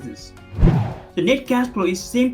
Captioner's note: air whooshing